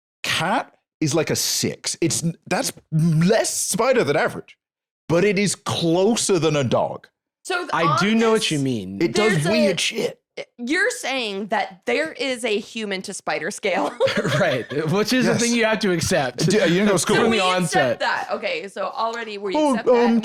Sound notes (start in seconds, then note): 13.8 laughs